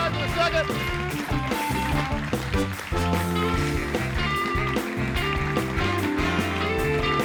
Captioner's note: audience applauding; lively music